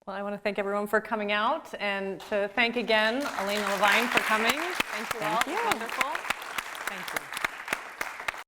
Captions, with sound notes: - Well, I wanna thank everyone for coming out, and to thank again Elana Levine for coming. Thank you all. - Thank you. - It was wonderful. (audience applauds) Thank you.